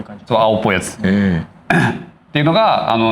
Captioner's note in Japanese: 咳払い